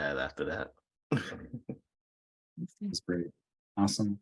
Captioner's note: chuckles